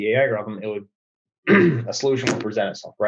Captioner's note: clears throat